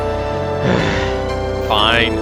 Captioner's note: sigh